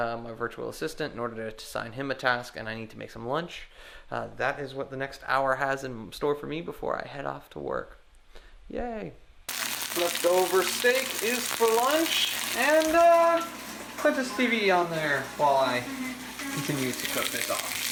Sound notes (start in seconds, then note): 9.5 sizzling